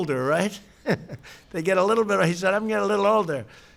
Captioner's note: laughs